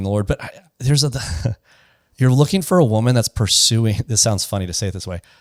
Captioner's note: laughs